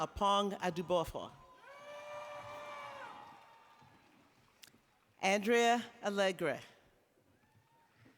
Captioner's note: applause